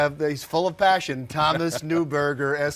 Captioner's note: laughs